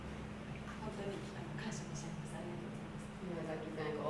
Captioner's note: speaking Japanes